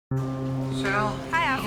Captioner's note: distant ship's horn blows